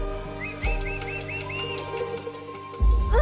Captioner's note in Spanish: Silbidos